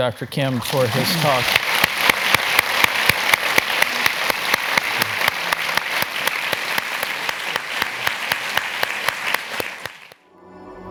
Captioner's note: applause